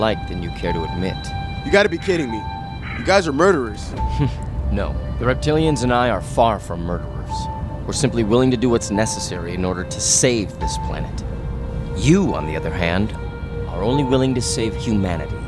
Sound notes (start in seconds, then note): 4.0 chuckles